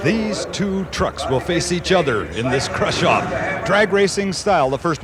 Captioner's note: voiceover